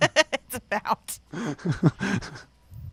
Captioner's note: both laughing